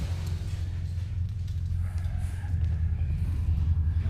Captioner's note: the rough breaths of Japanese soldiers